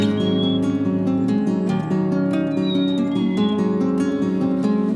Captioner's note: birds chirp and call